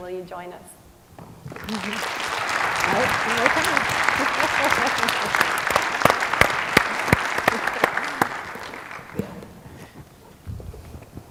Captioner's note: applause